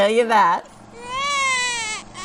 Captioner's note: baby cries